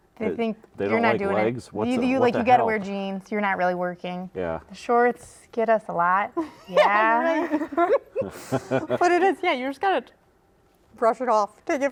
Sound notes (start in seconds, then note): 6.4 laughing